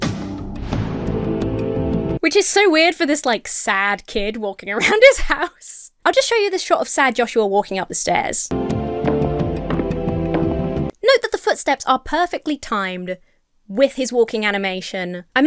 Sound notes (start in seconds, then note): 0.0 dramatic music; 8.5 dramatic music; 8.6 footsteps clopping